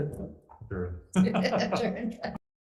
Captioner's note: laughing